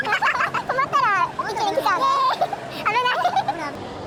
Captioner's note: laughs